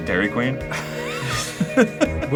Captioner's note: wheeze chuckling